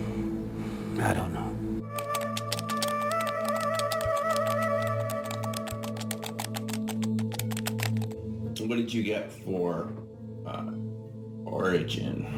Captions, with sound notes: - I don't know. (eerie music) (keys typing) - What did you get for origin?